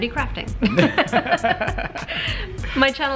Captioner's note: laughing